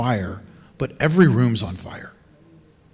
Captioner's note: none